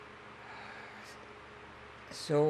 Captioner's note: sighing